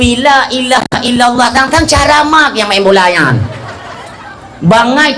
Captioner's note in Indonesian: tertawa